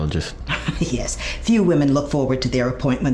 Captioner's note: laughs